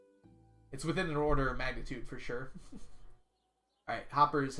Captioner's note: chuckles